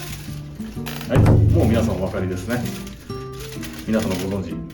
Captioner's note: none